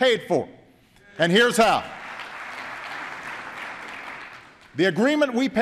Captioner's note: applause